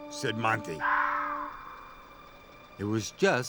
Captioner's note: screech